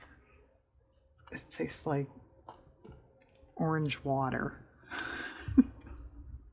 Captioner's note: laughs